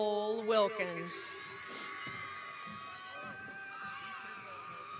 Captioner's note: cheering